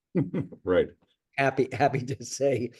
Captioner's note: chuckles